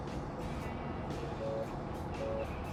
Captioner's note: phone ringing